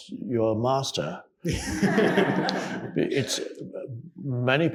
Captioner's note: audience laughing